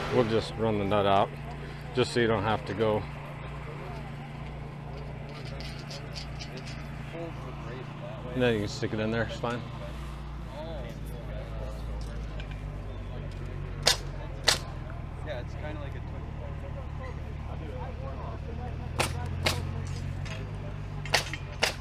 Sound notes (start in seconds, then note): 5.0 nut whirls; 13.8 metal bangs; 18.9 metal bangs